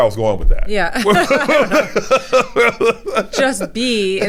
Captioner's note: both laughing